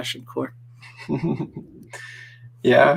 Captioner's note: chuckles